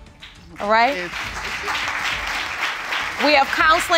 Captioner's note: applause